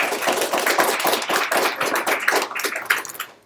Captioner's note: people clapping